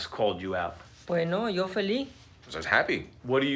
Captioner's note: speaking Spanish